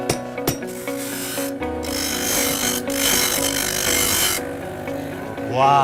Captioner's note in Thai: เสียงเจียไม้